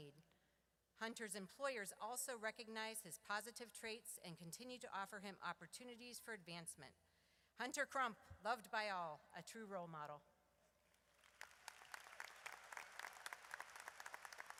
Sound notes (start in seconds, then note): 11.0 audience applauds